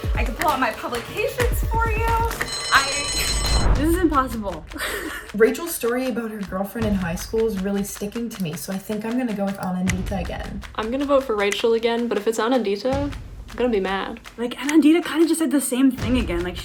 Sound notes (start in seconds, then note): 2.3 bell ringing; 4.7 laughs